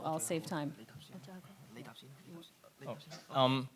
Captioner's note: panelists chattering